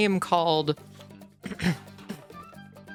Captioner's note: clears throat